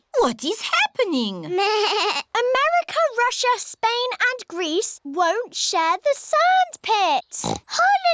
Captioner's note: bleats; oinks